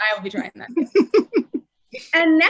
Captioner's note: laughing